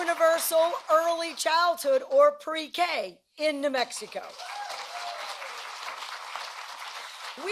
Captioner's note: applause